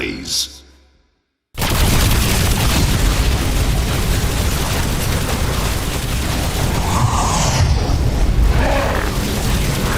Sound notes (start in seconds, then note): 1.6 gun blasts